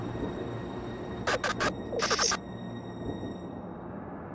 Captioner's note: lights buzzing